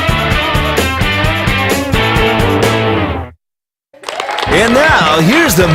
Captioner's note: cheering